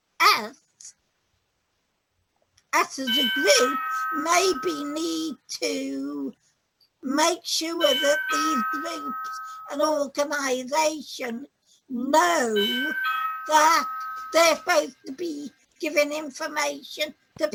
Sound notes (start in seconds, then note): 9.2 doorbell sounding